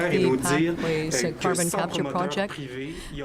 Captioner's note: speaking french